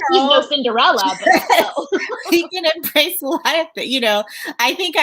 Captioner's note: laughs